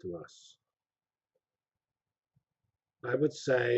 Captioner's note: pause